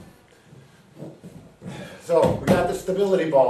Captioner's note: ball bouncing; hands tapping